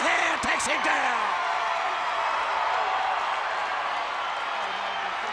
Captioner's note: crowd cheering